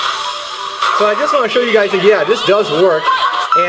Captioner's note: electronic beeps; voiceover